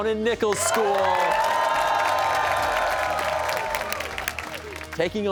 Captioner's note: cheers and applause